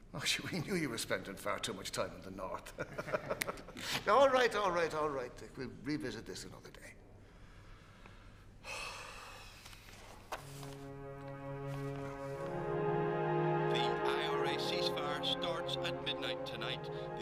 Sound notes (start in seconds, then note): 2.9 laughing; 8.1 Taoiseach sighs deeply; 9.9 gentle music